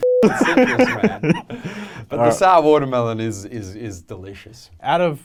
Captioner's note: laughing